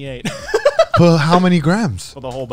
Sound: laughs

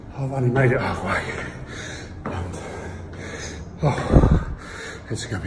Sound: breaths heavily

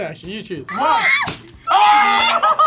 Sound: screams

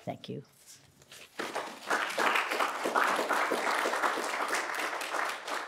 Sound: audience applauds

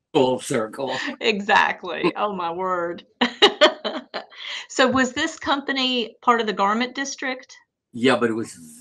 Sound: laughter

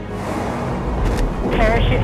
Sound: parachute deploys

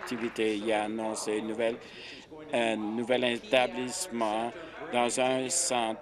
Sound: applause

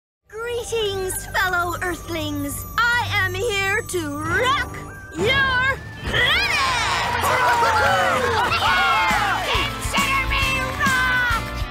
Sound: applause

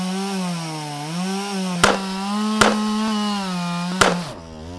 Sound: three gunshots ring out

